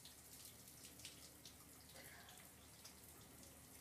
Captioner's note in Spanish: Agua cayendo